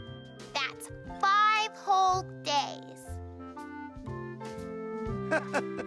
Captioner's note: laughing